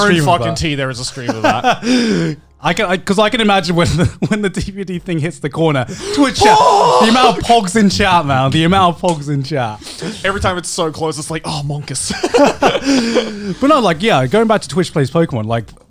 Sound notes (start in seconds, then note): 1.0 Garnt laughing; 11.4 Joey and Garnt laughing